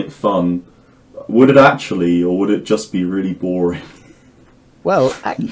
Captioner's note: chuckling